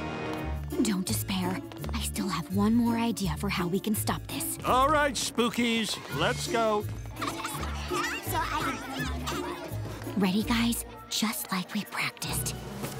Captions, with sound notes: Don't despair. I still have one more idea for how we can stop this. All right, spookies. Let's go. [laughing] [indistinct chatter] Ready, guys? Just like we practiced.